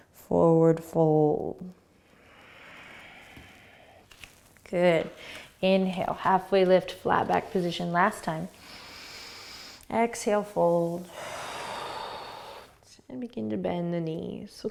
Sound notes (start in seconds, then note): 2.1 exhaling; 8.6 inhaling; 10.7 exhaling